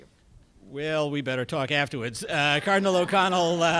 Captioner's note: laughter